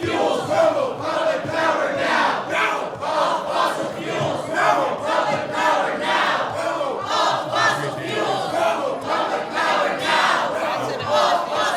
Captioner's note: chanting